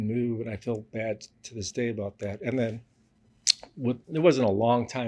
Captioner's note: smacks lips